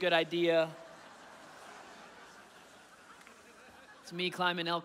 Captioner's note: audience laughing